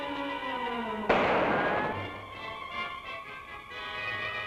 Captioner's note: gun fires